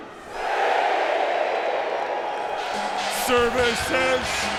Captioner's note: crowd cheering